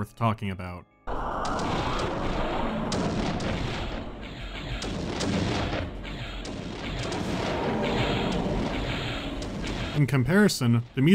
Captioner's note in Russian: стрёмные магические звуки